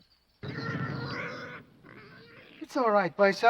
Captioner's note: pig snorting